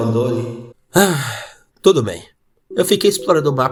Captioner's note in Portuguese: suspiro